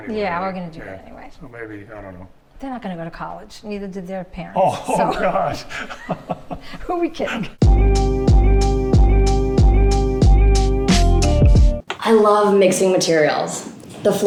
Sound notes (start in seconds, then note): 4.7 both chuckling; 7.6 upbeat music